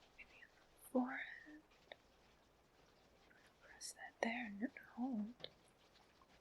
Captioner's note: whispers